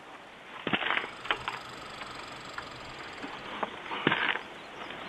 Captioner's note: squirrel chattering